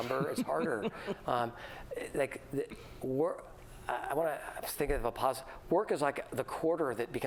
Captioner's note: laughter